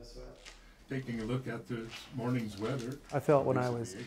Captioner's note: male radio voice